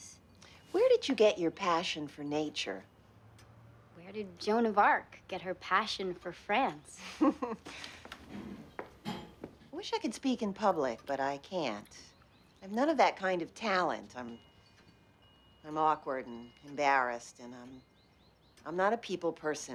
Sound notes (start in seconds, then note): 7.0 laughs